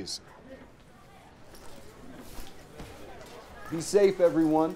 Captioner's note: students chattering